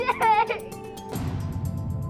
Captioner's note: sobs